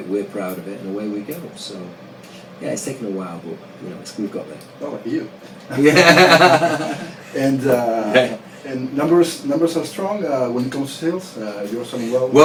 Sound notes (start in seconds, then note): 5.7 laguhs